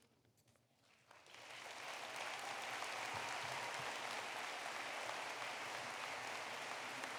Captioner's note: applause